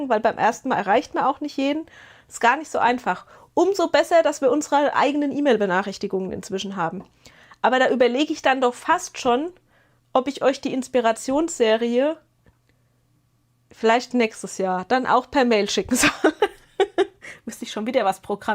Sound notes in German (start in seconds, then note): 15.9 gelächter